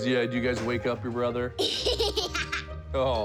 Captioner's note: laughs